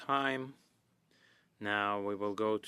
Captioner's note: speaking French